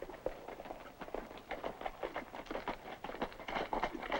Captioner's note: hooves clop